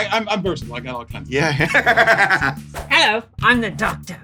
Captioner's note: laughter